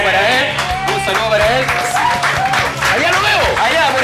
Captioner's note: cheers and applause